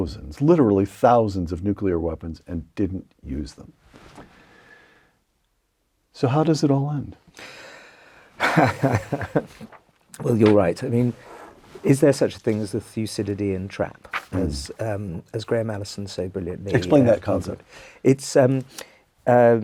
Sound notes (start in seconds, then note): 8.4 laugh